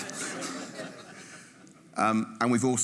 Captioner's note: audience laughing